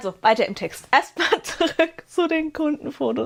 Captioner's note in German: gelächter